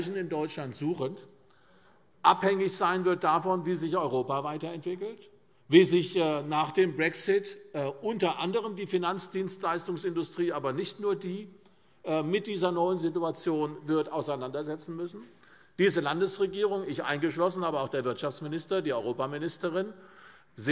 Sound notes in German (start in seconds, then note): none